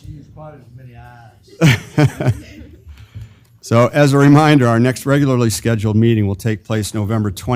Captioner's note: laugh